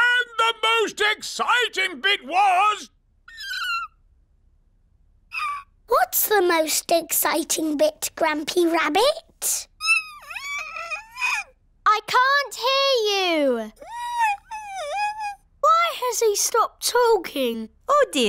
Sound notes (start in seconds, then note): 3.3 squeak!; 10.1 squeaks; 13.9 squeaks